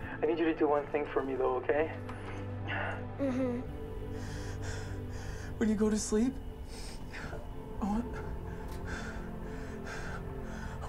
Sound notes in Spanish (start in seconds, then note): 3.8 Respirando profundamente; 8.2 Respirando profundamente